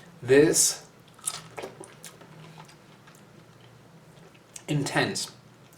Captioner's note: more fruity ASMR